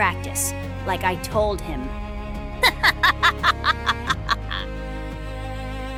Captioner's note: laughs maniacally